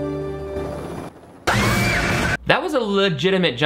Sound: woman screaming

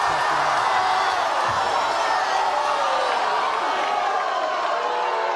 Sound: audience yells and boos

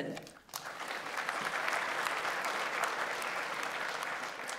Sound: audience applauds

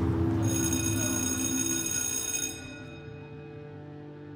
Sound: bell ringing

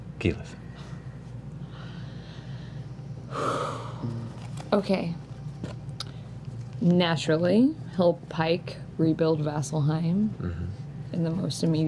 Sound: sighs

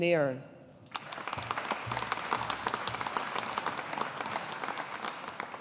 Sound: audience applauding

